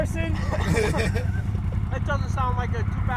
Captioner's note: laughter